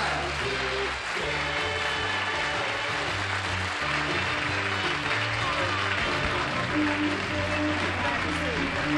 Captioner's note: applause